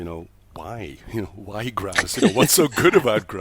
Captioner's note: laughs